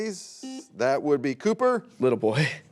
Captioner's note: buzzer beeps